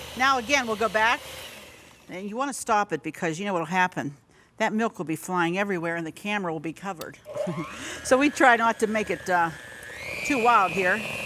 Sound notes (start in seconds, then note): 7.4 chuckles